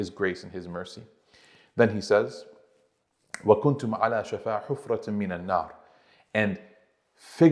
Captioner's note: Arabic